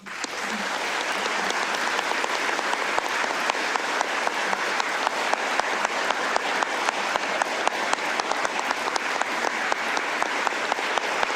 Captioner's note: applause